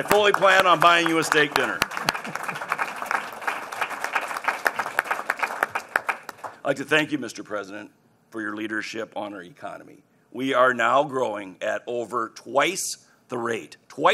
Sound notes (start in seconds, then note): 1.8 applause